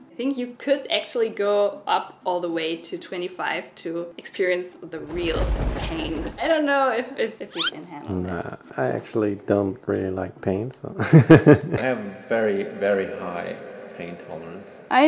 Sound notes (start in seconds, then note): 10.9 laughs